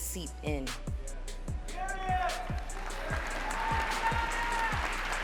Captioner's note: cheering